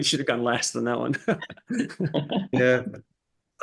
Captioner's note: panelists chuckling